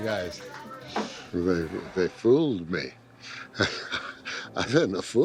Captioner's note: laughs